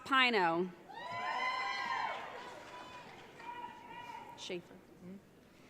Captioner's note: audience cheering